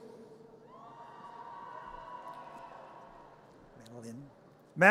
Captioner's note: audience cheers